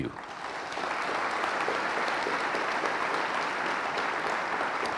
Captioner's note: audience applauding